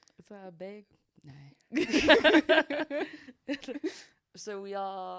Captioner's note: both laughing